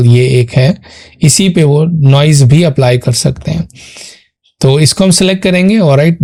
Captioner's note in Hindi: नाक से की जाने वाली आवाज़